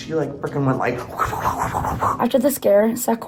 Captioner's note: wooshing Sounds